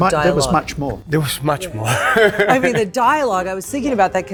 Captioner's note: chuckling